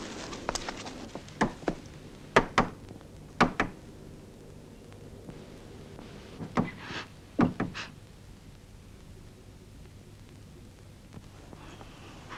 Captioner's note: knocking on door